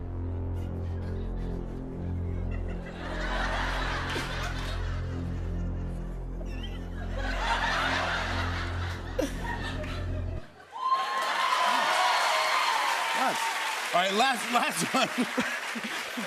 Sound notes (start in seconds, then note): 2.0 laughter; 10.5 cheers and applause